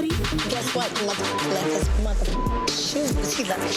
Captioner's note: beep